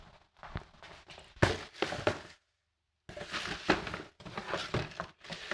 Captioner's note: boxes clattering